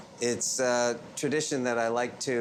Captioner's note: none